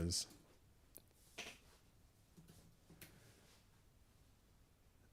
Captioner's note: silence